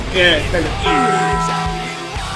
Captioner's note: taco bell bong